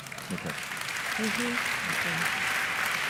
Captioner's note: applause